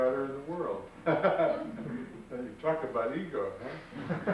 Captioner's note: laughs